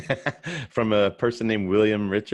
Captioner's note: laughing